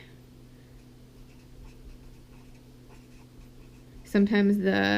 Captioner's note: pen scratching